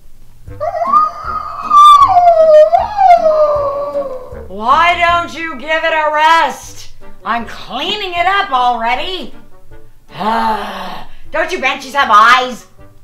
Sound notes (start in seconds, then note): 0.6 banshee wails; 10.0 sighs